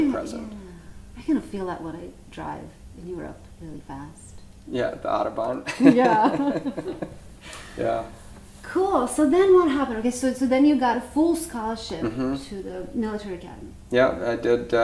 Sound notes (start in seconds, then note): 5.7 laughing